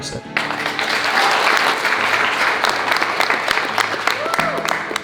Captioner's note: audience applauding